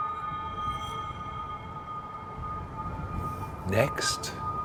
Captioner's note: high pitched humming frequency